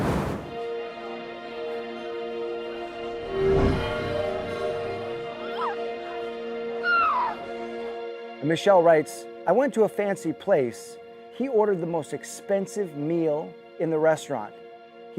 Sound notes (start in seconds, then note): 0.0 logo whooshing; 0.2 suspenseful music; 5.1 woman screaming